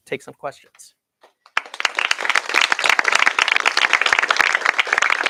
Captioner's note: applause